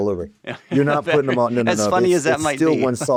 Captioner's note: laughs